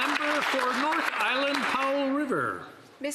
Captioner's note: some Applause